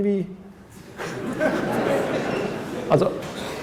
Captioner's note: laughter